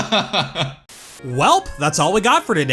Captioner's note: laughs; static